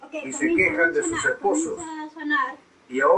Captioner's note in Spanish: voces grabadas